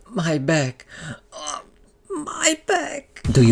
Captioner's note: back crunch